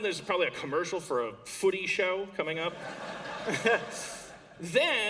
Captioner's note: laughter